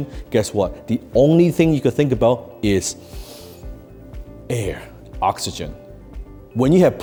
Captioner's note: inhales